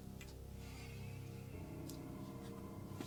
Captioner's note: none